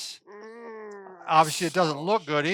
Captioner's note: groans